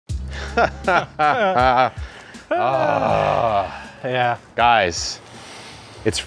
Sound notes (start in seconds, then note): 0.3 men laughing; 2.9 men sighing